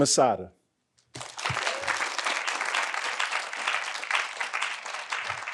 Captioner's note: audience applauding